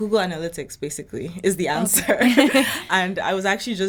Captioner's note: laughing